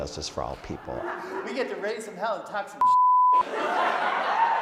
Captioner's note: beep; audience laughing